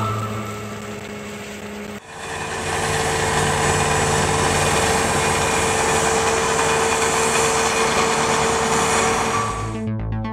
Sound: truck sounds

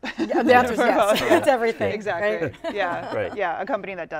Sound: laughter

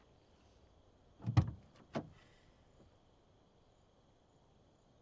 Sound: car door opening

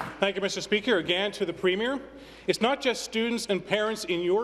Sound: applause

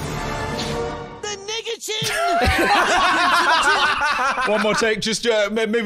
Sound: both laughing

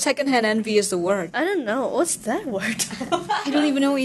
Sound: bahahahaha

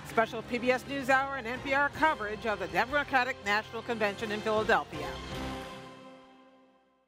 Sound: cheers & applause

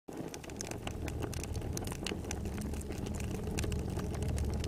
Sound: rain pattering

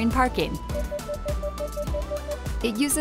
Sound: PDW beeping continues

